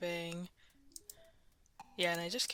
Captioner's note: mouse Clicking